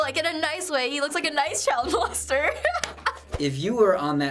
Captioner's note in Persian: خندیدن